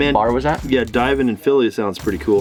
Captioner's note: murmurs